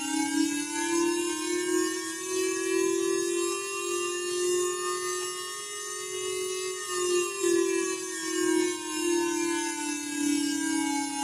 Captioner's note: siren